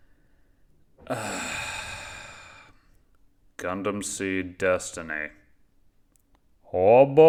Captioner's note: sigh